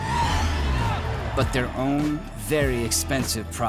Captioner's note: tires screeching